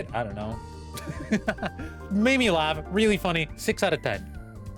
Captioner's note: laughing